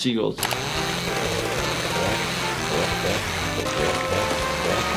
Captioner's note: chainsaws buzzing